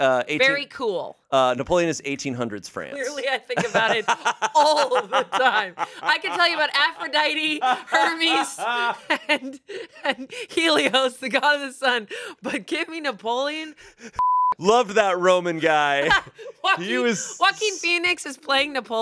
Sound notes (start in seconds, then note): 14.2 beep